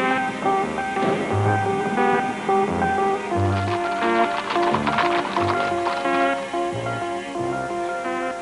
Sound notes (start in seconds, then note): 3.4 hooves clopping